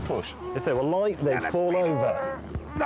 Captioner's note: Hammond groans